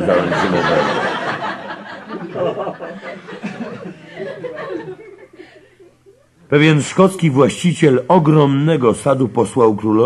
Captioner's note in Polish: śmiech